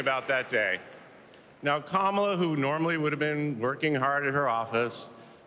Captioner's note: cheers and applause